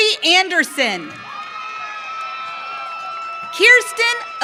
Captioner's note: audience cheering